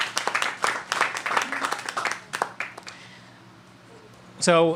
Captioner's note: applause